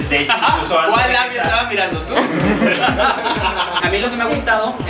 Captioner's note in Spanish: risas